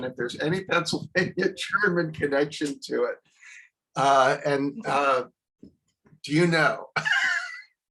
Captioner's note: laughs